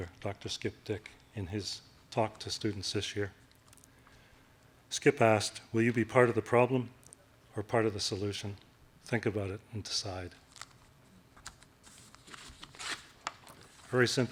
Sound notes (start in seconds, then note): none